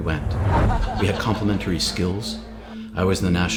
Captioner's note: man laughs